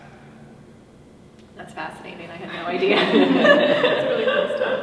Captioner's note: all laugh